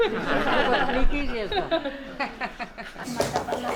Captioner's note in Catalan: les participants riuen